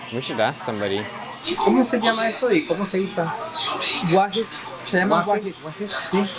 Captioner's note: and shopper speaking Spanish